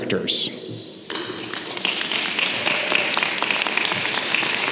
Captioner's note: applause